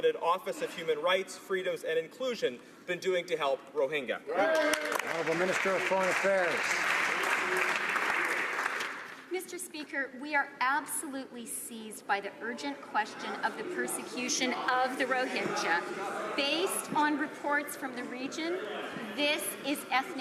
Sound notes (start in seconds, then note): 7.3 some Applause